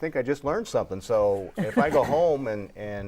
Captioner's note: laughing